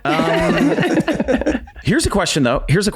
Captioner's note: all laugh